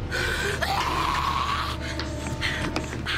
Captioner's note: Jessie snarling; intense music